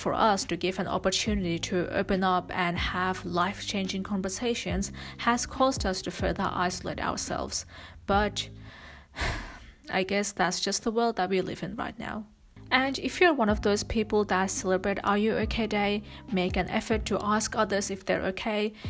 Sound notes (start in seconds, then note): 9.1 sighs